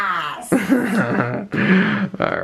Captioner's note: laughing